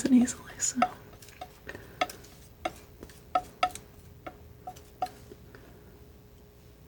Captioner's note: tapping